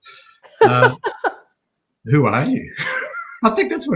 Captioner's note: laughing